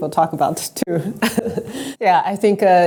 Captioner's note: laughs